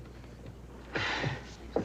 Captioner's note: sighs